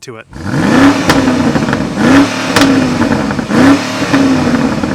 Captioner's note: car engine revving